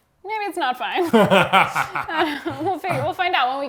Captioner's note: laughs